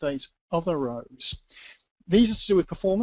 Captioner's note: pause